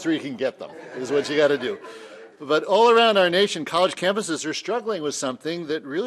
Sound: laughter

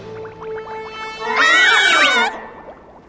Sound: screaming

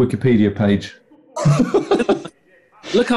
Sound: laughing

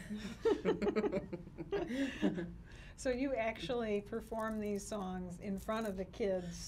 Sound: laughs

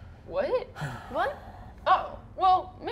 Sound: sighs sadly

